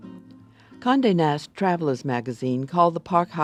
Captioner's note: voiceover